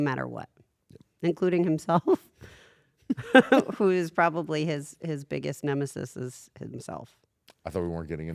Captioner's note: laugh